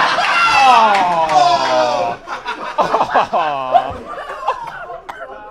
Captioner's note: audience laughs; audience groans; Sidemen groan